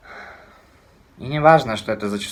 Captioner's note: sighs